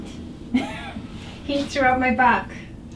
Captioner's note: giggles